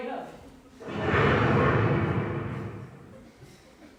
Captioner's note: thunder rumbles